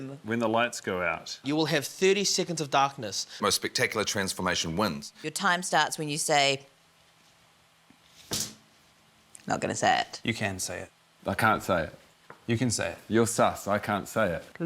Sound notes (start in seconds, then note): none